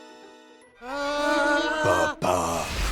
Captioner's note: Shrek shouts